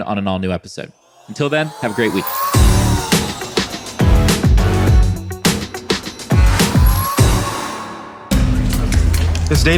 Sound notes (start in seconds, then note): 3.8 energetic upbeat music; 7.4 air booms